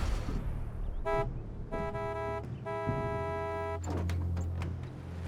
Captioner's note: honking